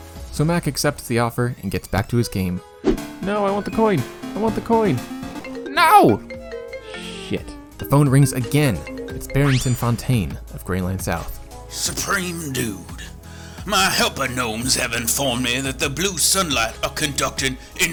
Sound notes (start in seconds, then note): 5.5 phone rings; 11.5 ridiculous southern drawl